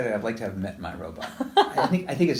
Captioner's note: laughs